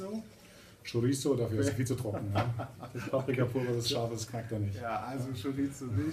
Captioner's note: laughs